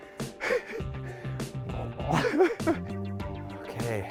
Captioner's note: chuckles